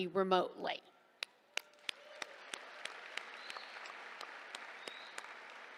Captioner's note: applause